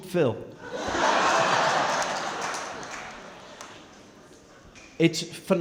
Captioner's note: crowd clapping & laughing